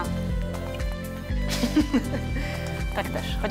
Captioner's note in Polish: śmiech